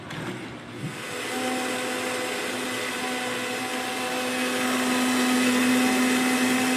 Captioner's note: blender speed and noise intensifies then stops